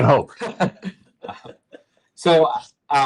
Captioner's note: chuckling